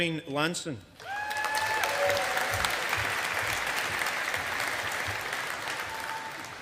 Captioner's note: audience applauding